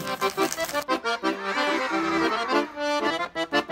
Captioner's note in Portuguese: Música ao fundo; Sons de admiração